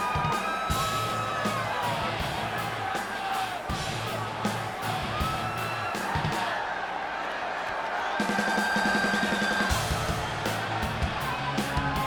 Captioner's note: crowd cheering